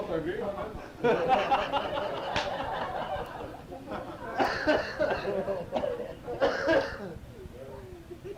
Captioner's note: laughter